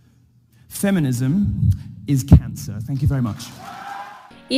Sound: crowd cheers

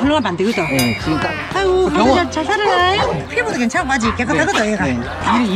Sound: laugh

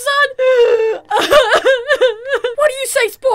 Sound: crying

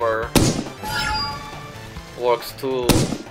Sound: Thumper firing sfx

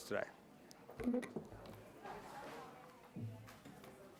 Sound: murmuring

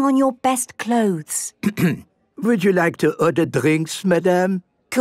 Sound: clears throat

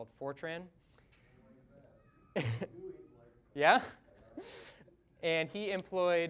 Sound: chuckling

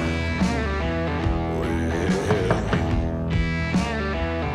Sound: knocking

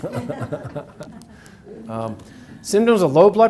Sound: audience laughs

